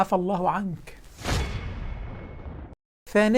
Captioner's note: sound effects